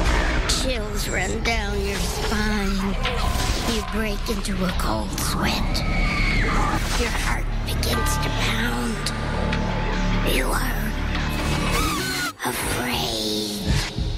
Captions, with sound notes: [EERIE MUSIC] chills run down your spine you break into a cold sweat [SCREAMING] your heart begins to pound you are...afraid